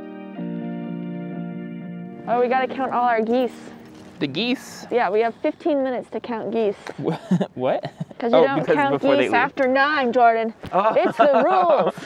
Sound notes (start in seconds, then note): 0.0 gentle music; 7.0 laughs